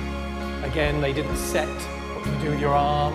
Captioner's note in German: Anweisungen auf Englisch